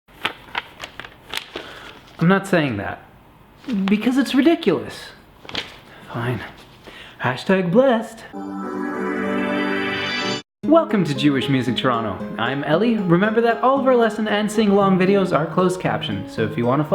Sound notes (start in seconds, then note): 0.1 paper Shuffling